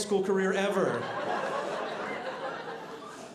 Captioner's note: audience laughing